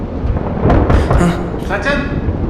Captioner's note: kncoking on the door